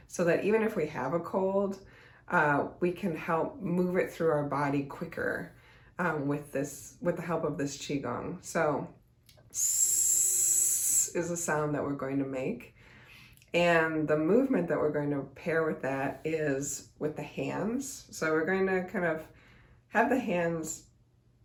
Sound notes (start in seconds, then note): 8.8 hisses